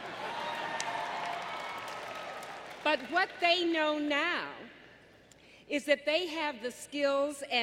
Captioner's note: applause